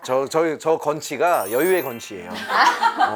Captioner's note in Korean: 끊이질 않는 웃음